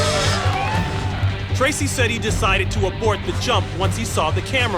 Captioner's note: cheering